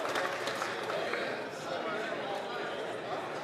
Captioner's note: applause